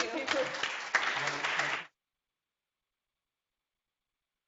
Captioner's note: applause